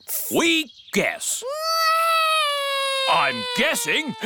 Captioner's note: alexander wails